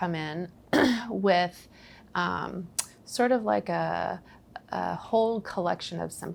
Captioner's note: clears throat